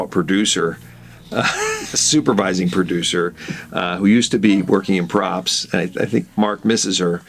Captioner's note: laughs